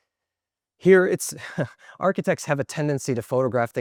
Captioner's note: chuckles